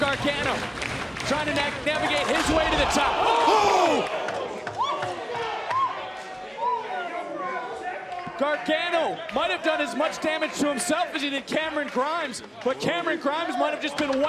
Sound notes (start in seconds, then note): 7.2 crowd chatter